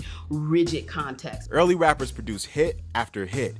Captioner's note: voiceover